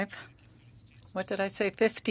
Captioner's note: speaking French